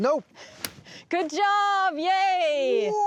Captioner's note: cutting sound